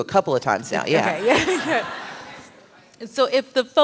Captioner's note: laughter